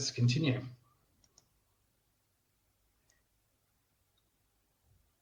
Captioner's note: clicks mouse